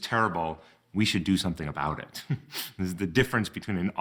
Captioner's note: chuckles